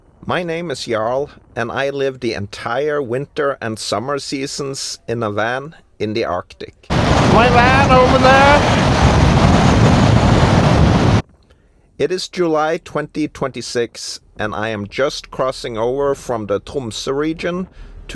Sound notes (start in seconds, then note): 9.0 blizzard sounds